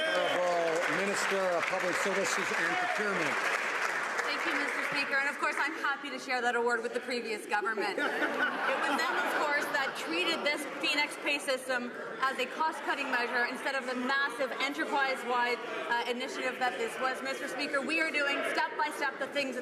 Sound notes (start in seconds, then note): 3.3 some Applause